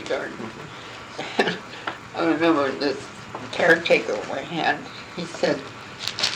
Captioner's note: laughing